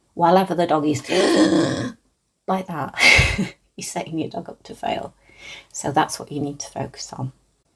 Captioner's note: gasp